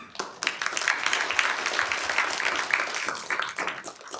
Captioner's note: applause